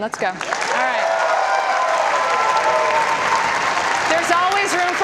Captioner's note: audience applause